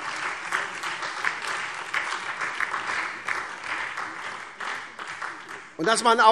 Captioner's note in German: Beifall SPD und DIE LINKE